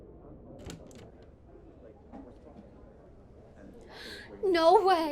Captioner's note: crew chattering; door clicks; gasps